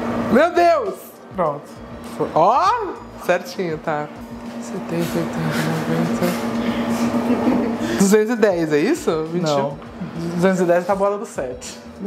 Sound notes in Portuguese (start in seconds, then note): 7.0 risos